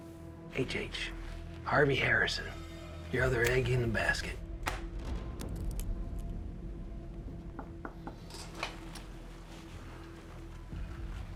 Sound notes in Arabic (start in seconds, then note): 4.1 تسقط الوسادة، ويتدحرج القلم; 6.9 ينقر هارفي على المكتب; 8.8 موسيقى متوترة